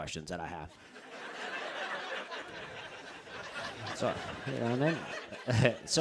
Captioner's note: laughter